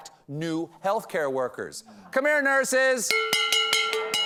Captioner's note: bags pots and pans